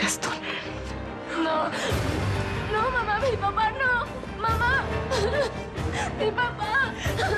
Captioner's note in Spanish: sollozos